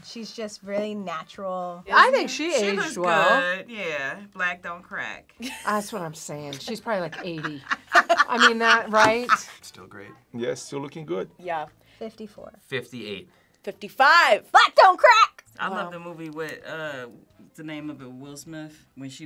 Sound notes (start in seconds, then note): 7.1 laughs